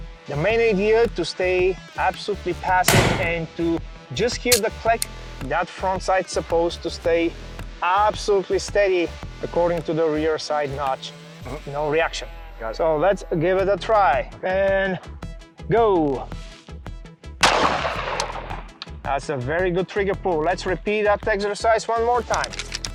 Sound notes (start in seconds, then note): 17.4 gun shoots; 22.3 gun cocking